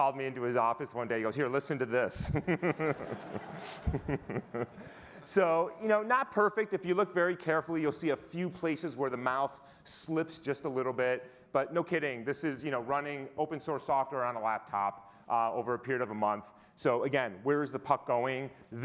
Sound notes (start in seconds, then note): 2.2 laughing; 2.2 audience laughing